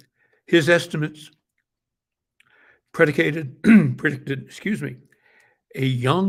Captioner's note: coughs